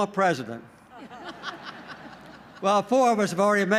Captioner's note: laughter